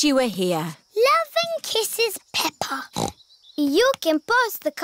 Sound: snorts

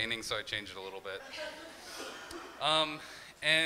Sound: crowd laughing

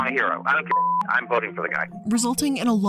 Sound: beeps

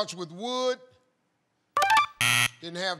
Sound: buzzer

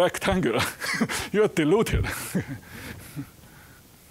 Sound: chuckling

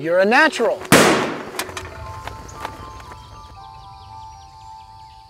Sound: gunshot firing

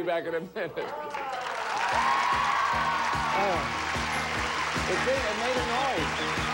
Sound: audience applauding

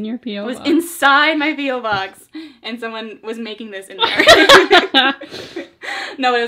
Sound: both laugh

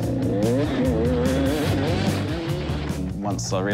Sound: engine revs

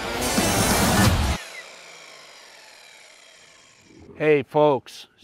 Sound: saw whirring

